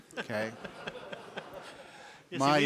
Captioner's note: laughs